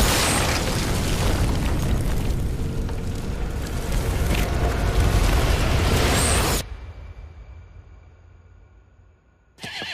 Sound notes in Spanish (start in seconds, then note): 3.3 Estruendo